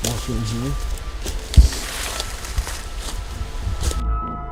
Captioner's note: leaves crunching; soft ominous music